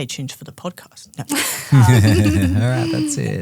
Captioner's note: group laughing